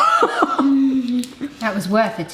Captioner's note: laughs